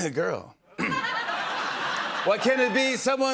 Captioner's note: clears throat; laughter